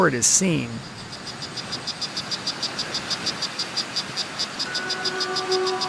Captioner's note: frog Chirping